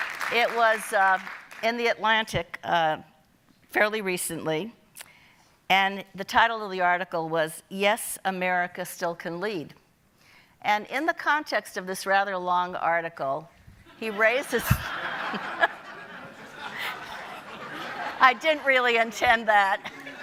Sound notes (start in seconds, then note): 0.0 audience applauding; 14.0 audience laughing; 14.4 chuckling